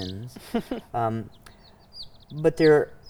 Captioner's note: laughing